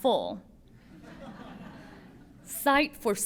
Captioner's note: laughter